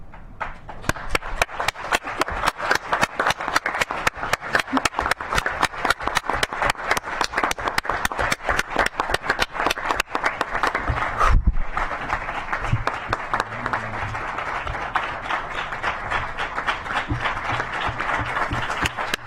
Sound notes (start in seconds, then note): 5.6 clapping